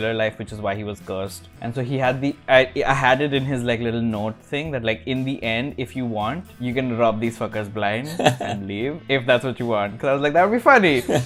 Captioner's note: laughter